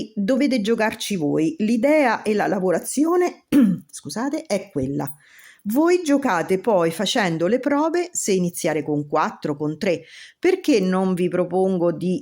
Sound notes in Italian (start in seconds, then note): 3.5 schiarire la voce